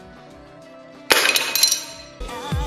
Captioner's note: smashing sound